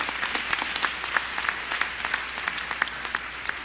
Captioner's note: applause